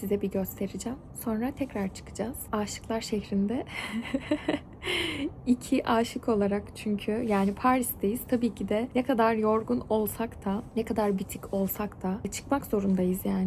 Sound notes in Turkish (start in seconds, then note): 3.8 kahkaha